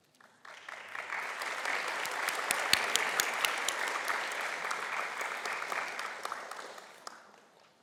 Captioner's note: applause